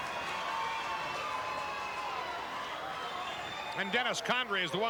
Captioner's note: audience cheering